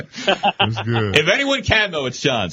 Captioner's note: laughing